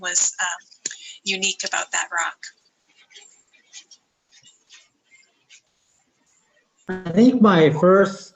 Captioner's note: silence